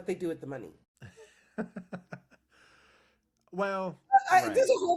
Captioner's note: laughing